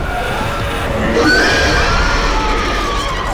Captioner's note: demon screeching; Izzie screaming